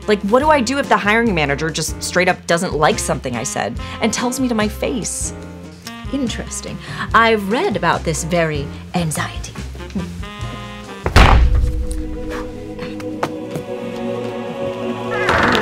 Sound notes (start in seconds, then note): 11.1 book slams; 11.6 mystical music